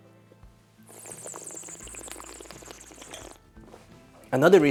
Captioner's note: slurps